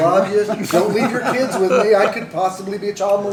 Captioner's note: laughter